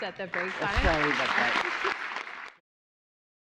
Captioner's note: applause